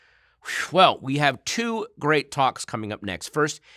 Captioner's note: exhales